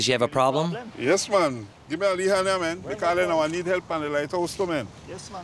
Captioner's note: foreign language spoken